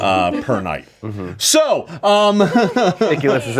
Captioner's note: laughing